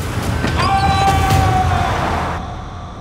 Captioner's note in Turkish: Tarık bağırıyor